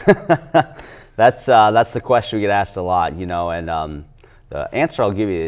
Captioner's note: laughs